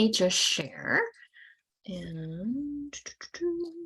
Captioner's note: humming